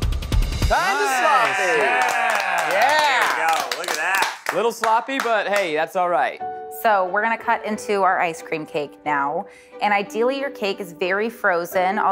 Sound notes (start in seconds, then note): 0.7 clapping